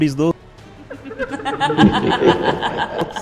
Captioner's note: laughter